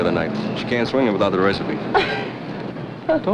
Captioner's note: laughs